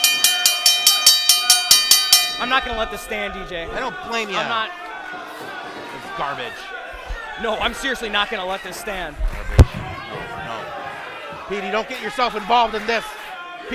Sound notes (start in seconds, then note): 1.5 bell rings